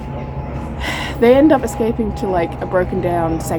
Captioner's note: sighs